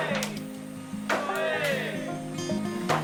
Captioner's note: everyone shouts